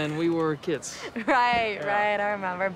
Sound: laughs

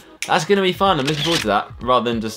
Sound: camera click

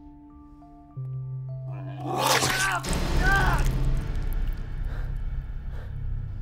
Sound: Solomon groans; monster growling; heavy breathing

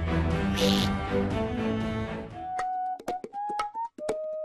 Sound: duck quacking; upbeat music

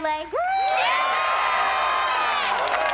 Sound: cheering

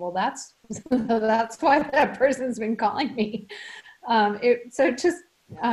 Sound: laughs

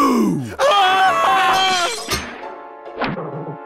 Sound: screaming; clanging

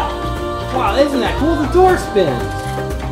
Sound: voiceover

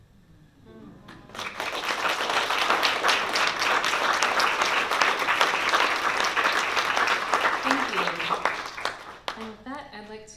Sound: applause

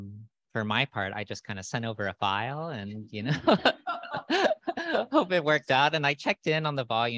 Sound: laughter

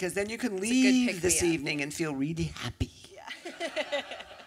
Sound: laughter

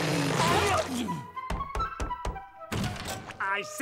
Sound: knocking

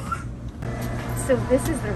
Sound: exhaust noise

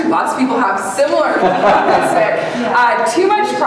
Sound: audience laughing

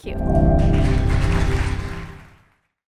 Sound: applause

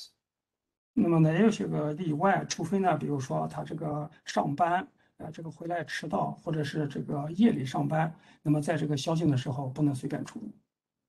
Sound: speaks in Mandarin

